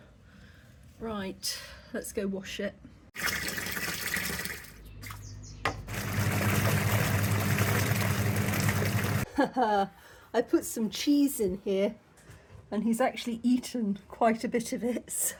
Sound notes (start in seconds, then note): 5.0 splosh; 5.6 churning